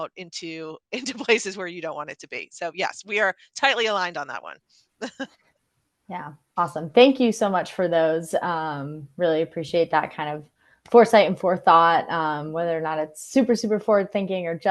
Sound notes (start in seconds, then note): 5.0 laughing